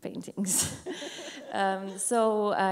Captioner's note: laughs